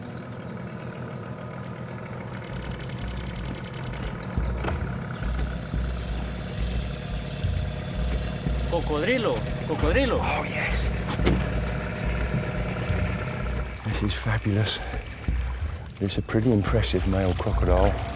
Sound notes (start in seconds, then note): 1.6 boast engine whirs; 8.7 speaks in foreign language